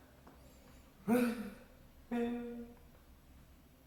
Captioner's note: deep sigh